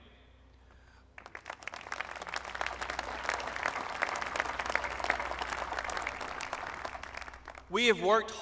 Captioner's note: applause